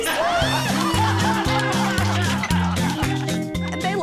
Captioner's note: laughter